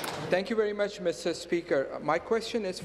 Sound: applause

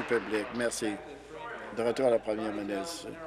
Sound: applause

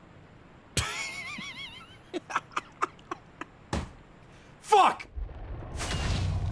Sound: laughs

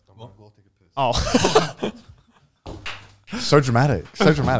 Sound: laughing

